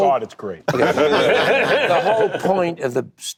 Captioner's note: laughter